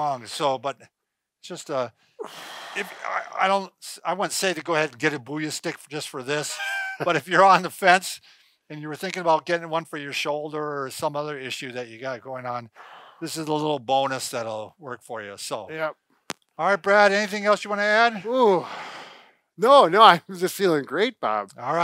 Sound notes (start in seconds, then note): 2.0 breathes out; 6.4 laughing